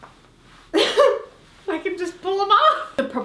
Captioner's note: laughs